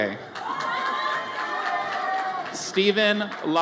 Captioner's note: audience cheers